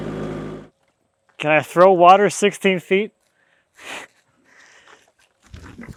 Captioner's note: chuckles